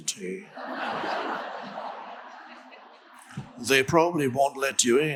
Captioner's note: crowd laughs